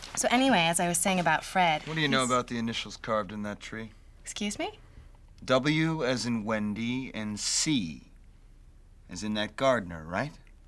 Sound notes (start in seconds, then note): none